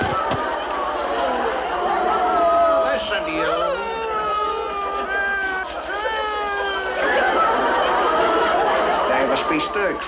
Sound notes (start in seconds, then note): 0.1 prisoners groan; 3.3 audience laughs